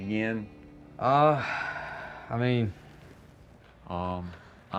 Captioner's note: sighs